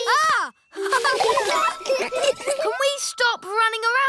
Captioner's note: gasps; all laughing